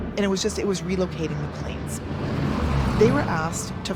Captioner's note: engine rumbles